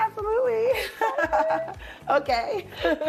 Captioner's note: laughter